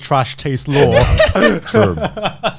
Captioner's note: Joey laughing